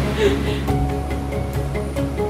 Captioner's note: laughs